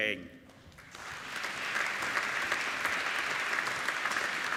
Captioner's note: applauding